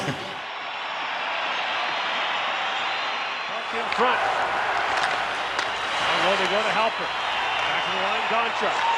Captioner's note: chuckles